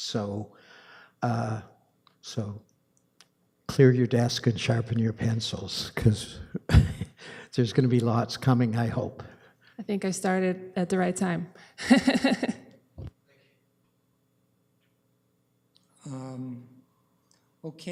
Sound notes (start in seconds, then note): 6.5 chuckling; 12.8 laughs